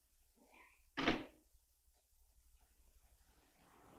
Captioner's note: door thuds